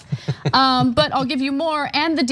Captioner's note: laugh